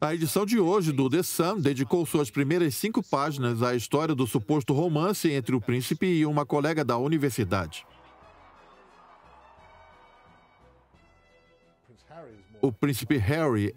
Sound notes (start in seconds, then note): 0.0 voiceover; 6.9 crowd cheering